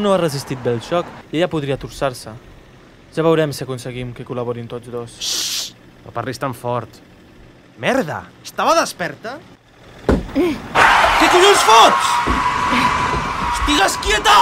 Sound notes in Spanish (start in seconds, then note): 10.1 forcejeo. Derrape